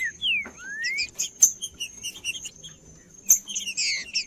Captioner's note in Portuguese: trinca ferro cantando